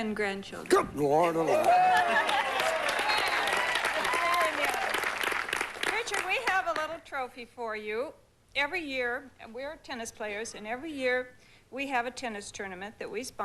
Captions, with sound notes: 10 GRANDCHILDREN. GOOD LORD ALMIGHTY! [APPLAUSE] RICHARD, WE HAVE A LITTLE TROPHY FOR YOU. EVERY YEAR--AND WE'RE TENNIS PLAYERS-- AND EVERY YEAR WE HAVE A TENNIS TOURNAMENT